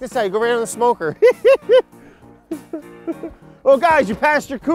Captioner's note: laughs